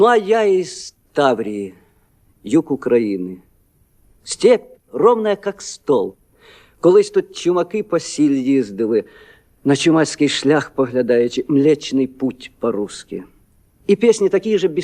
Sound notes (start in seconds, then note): 6.9 switches to Ukrainian; 11.3 switches back to Russian